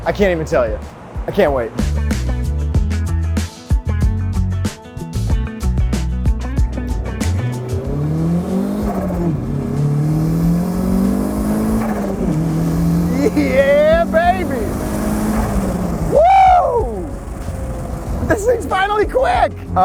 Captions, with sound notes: I can't even tell you. I can't wait. (upbeat music) (car engine revving) Yeah, baby. Woo! This thing's finally quick.